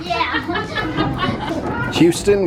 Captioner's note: laughing